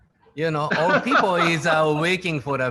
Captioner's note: laughing